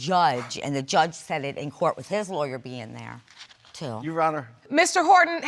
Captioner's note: scoffs